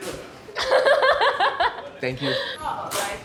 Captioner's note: laughs